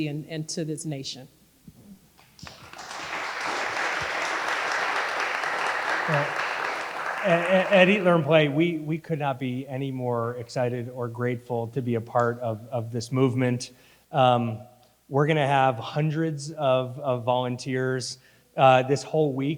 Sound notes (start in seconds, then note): 2.4 audience applauding